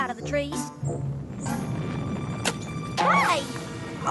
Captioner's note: rumbling